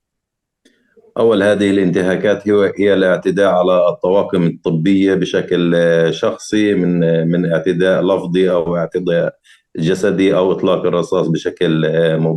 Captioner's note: speaking arabic